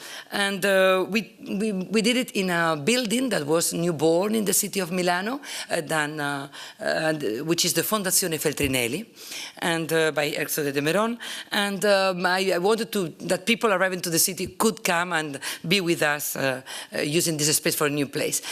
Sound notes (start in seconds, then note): 8.6 italian